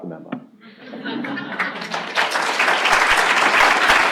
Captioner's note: applause